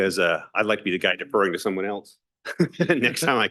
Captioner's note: laughs